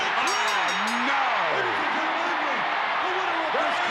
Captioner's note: bell rings